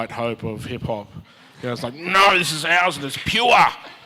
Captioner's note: audience chuckles